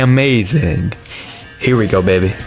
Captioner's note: inhales Oxygen